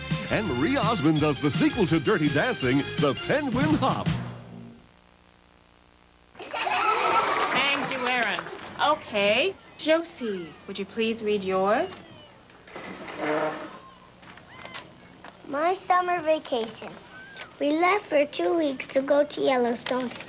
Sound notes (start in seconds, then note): 6.3 little kids giggle, applaud; 12.6 chair legs scrape floor; 14.2 paper rustles